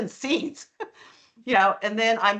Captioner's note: chuckling